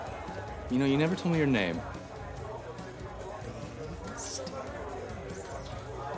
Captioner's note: whispering